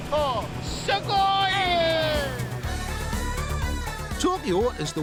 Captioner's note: cheering; speaking Japanese